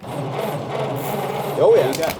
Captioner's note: engine sputters